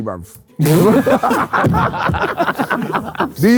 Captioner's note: group laughing